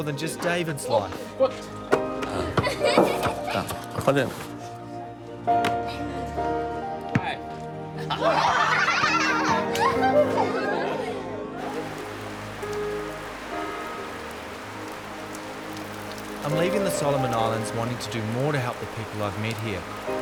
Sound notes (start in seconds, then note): 2.6 girl laughs; 8.0 and children laugh; 11.5 patter of falling rain